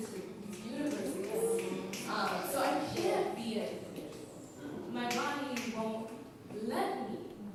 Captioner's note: applause